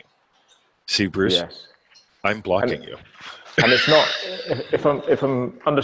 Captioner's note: laughing